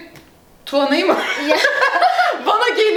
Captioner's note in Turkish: gülüşmeler